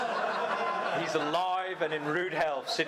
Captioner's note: audience laughing